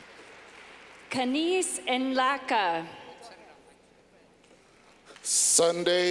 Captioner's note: clapping